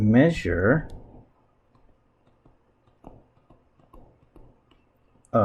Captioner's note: writing Sounds